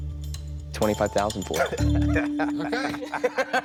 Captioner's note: laughs